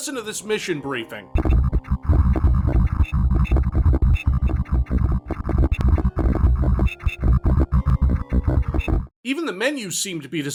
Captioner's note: nightmarishly bit-crushed voice lines